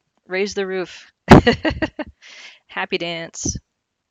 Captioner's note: laughs